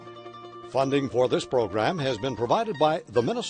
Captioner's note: voiceover